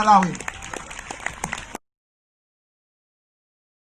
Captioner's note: crowd claps